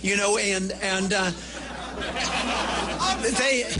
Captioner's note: laughter